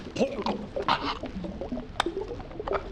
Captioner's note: fish out of water but underwater noises